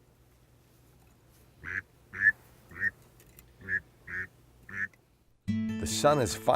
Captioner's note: sounds of a duck call